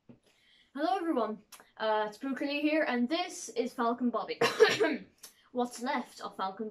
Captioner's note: coughs